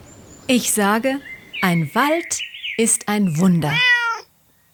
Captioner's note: meow